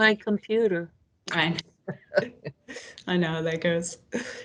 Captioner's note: participants laughing